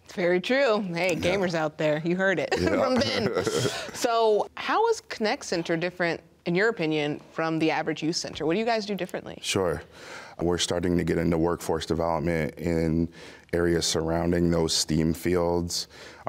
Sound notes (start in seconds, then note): 2.4 both laugh